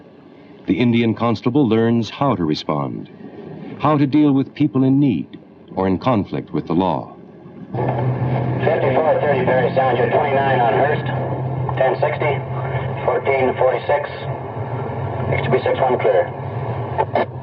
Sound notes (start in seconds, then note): 8.8 over Radio